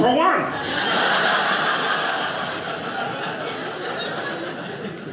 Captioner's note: audience laughing